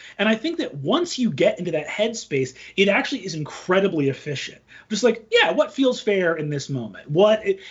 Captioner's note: none